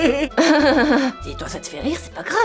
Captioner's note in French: rire gras; rire forcé